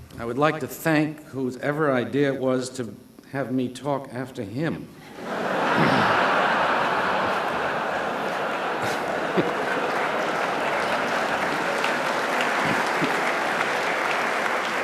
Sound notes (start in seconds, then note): 5.1 laughter; 9.7 applause